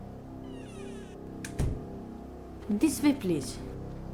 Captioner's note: door close